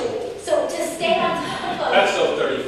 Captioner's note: laughter